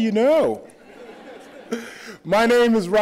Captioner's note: laughter